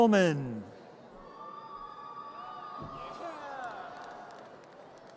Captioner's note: audience cheers